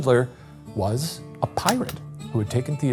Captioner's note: projector clicking